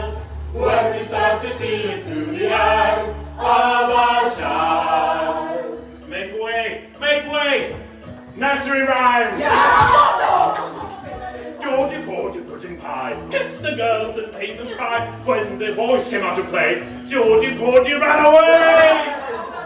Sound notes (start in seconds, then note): 9.3 cheering